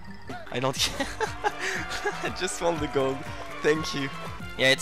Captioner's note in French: rires